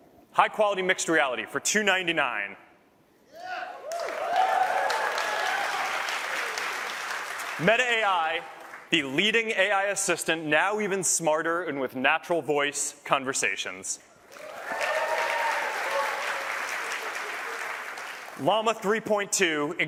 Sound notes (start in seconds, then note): 10.5 cheers